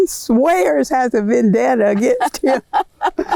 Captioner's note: laughter